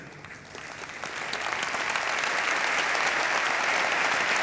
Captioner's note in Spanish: Aplausos